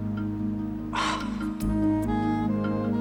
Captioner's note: sighs